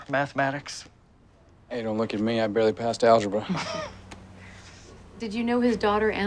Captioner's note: all chuckling